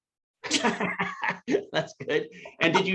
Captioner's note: laughing